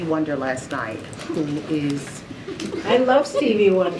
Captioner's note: laughter